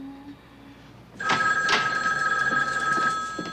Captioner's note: phone ringing